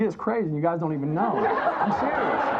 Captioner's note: audience laughs